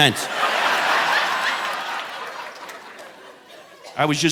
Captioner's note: audience laughing